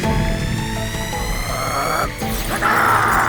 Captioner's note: growling